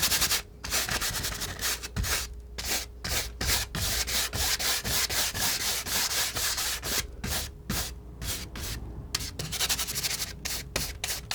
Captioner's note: scratching